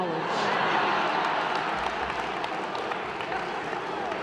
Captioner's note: applause, hollering